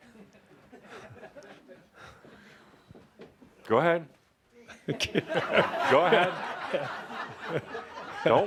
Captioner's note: laughter as Adamus walks toward Paul, who is backing away from him